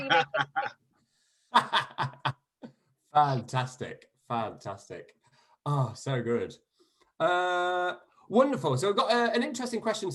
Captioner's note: laughter